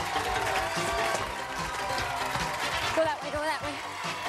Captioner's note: upbeat music; cheers and applause